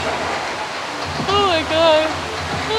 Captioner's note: HEAVY rain